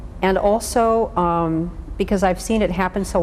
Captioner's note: none